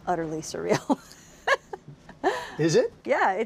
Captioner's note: laughter